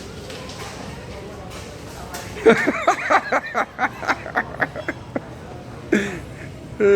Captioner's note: laughing